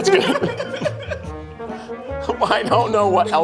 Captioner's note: laughing